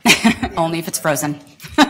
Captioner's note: laughter